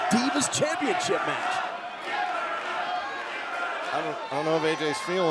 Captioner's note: crowd cheering